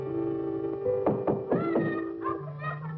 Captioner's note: knocking on the door